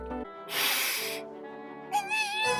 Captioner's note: inhales